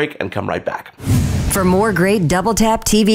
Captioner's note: whoosh